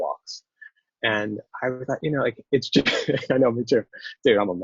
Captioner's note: laughs